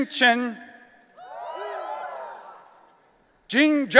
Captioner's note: audience cheering